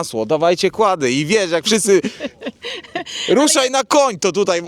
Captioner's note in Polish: śmiech